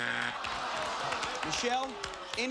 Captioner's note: audience moans